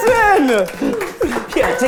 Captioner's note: crew clapping